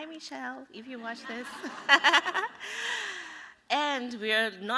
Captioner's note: laughter